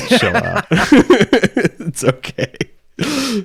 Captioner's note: laughs